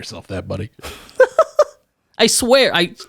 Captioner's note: laughs